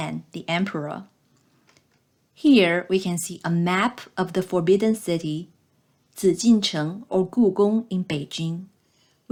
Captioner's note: click